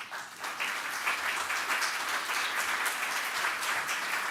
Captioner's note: applause